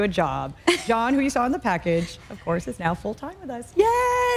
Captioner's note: laughter